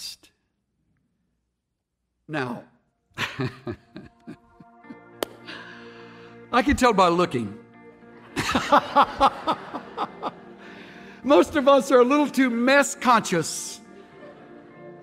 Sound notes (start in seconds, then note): 5.1 claps hands; 8.2 laughter